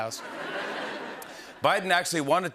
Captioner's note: laughter